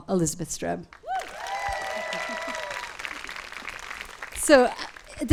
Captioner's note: audience claps and cheers